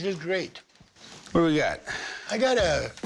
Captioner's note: exhales